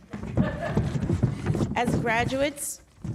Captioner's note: audience laughs